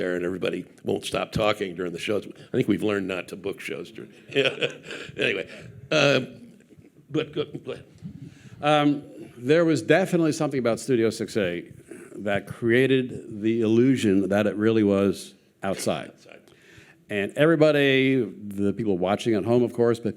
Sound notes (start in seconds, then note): 4.2 chuckles